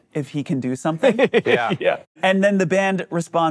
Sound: laughs

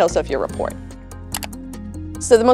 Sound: slide clicks

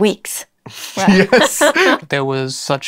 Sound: laughter

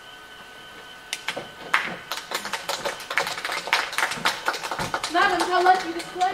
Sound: applause

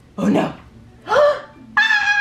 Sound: gasps; screams

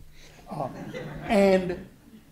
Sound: laughter

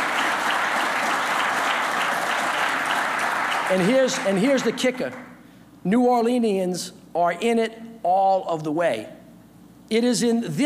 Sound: applause

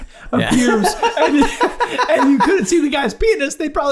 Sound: guys laughing

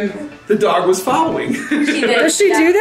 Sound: laughing

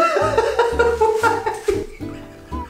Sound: laughs

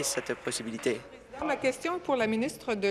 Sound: applause

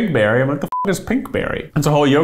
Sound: beeps

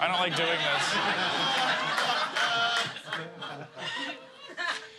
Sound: laughter

